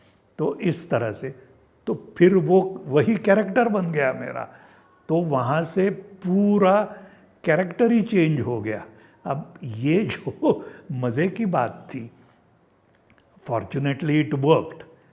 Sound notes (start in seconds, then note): 10.0 chuckles